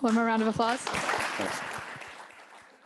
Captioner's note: applause